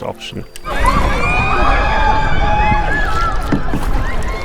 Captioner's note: tourists screaming